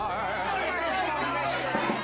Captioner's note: lively chatter